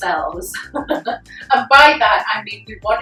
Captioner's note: chuckles